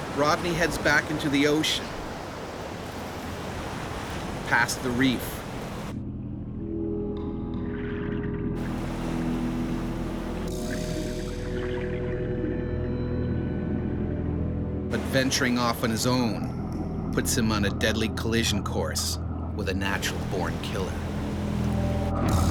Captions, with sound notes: - [Voiceover] Rodney heads back into the ocean, past the reef. (swishing) But venturing off on his own puts him on a deadly collision course with a natural born killer.